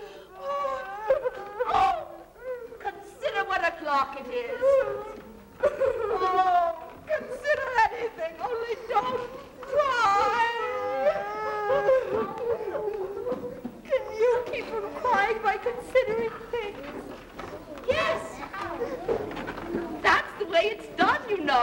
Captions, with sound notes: (Alice crying) Consider what a clock it is! Consider anything only don't cry! (both crying) - Can you keep un-crying by considering things? - Yes! That's the way it's done, you know!